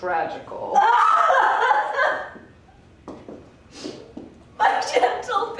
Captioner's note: wailing sobs